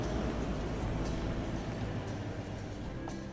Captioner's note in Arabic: يبطئ المحرك حتى يتوقف